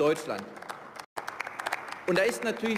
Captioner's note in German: Beifall